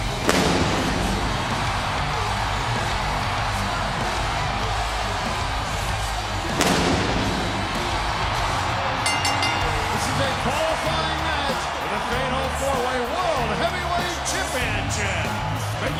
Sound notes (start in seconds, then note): 0.1 crowd cheering; 0.2 fireworks exploding; 6.4 crowd cheering; 6.4 fireworks exploding; 8.9 bell ringing